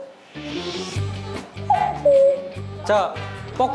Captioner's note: cuckoo